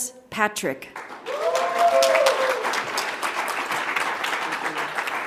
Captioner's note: audience applauds